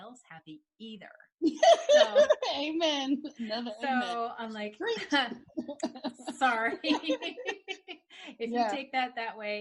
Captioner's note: laughing